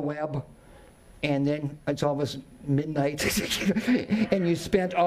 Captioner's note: chuckles